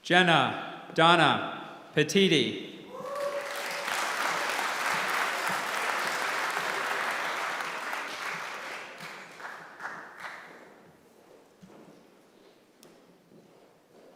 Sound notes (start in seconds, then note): 3.0 applause